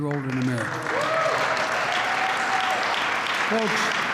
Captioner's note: applause